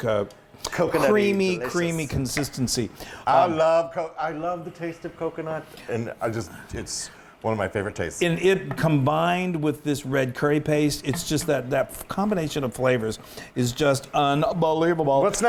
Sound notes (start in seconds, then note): none